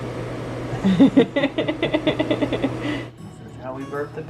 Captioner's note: laughs